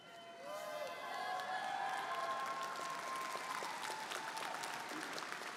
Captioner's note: audience cheering & applauding